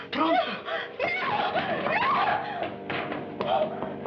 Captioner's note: screaming